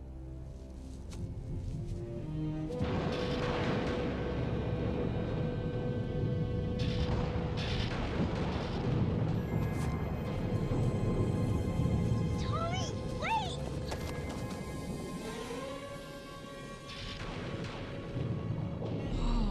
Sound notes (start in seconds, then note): 2.9 lightning crashing; 16.9 storm rumbling